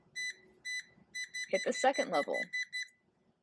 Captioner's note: beeping